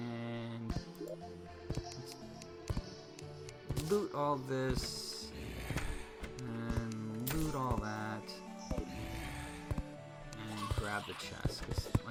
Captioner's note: laughing